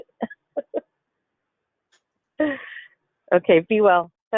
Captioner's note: laughs